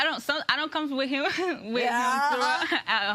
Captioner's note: laughing